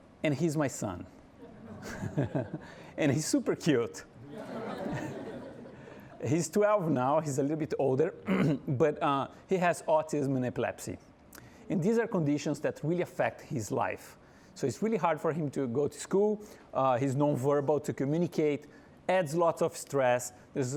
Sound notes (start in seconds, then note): 1.4 laughing; 4.2 audience laughing